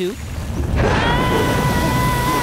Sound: ominous rumbling

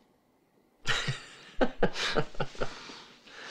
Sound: laughs

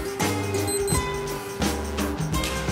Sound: beeping

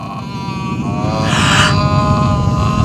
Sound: gasps

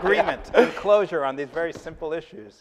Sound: laughing

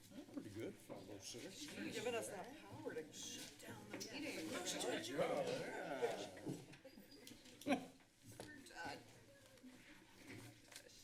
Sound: background conversations only

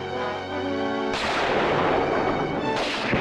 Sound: gunfire continues

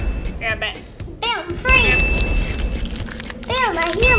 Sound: magical sound

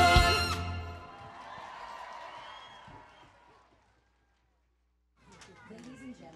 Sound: cheering and applause

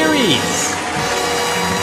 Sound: audience applauding; inspirational orchestral music

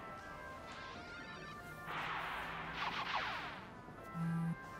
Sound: phone vibrates

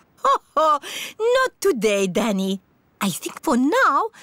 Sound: laughs

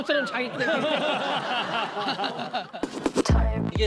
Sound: bittersweet laughter

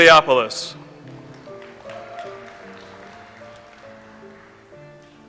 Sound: audience applauds

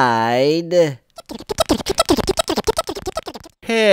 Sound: funny motor sound goes

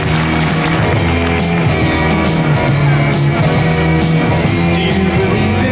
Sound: audience applauds; upbeat music

